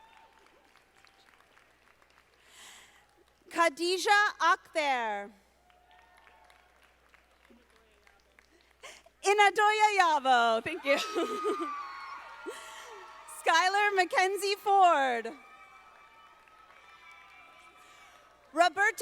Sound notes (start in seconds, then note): 0.0 audience applauding; 5.6 audience applauding; 10.7 laughs; 11.9 audience applauding; 16.1 audience applauding